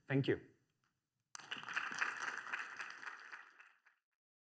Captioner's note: applause